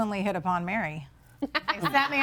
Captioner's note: laughs